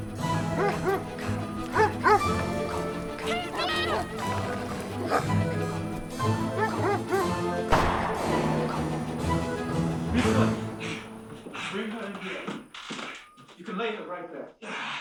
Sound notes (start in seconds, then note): 0.1 dogs barking; 7.7 gun firing